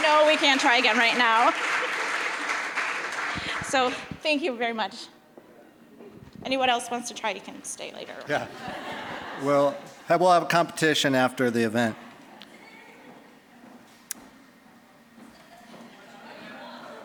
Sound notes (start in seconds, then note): 1.8 applause; 8.3 audience laughing